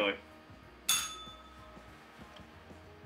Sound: bell rings

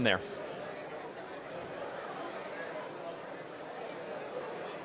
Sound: attendees chattering

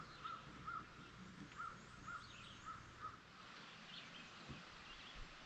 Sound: ambient sounds - birdsong

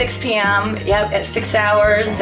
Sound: laughs

